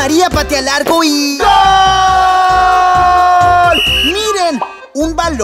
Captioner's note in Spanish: Sonido de silbato